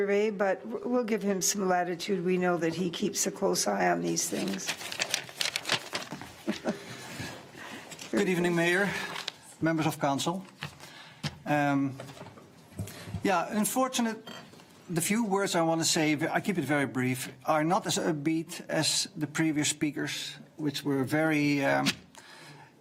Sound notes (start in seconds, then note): 6.3 laughing